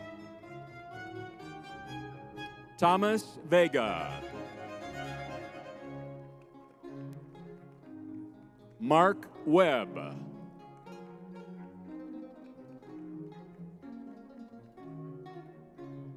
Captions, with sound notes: (lively music) Thomas Vega. (crowd applauding) (lively music) Mark Webb. (lively music)